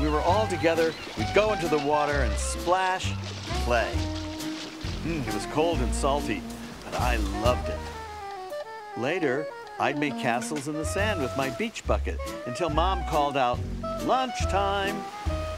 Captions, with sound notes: When we were all together, we'd go into the water and splash and play. (water splashing) It was cold and salty, but I loved it. Later I'd make castles in the sand with my beach bucket, until mom called out, "Lunchtime!"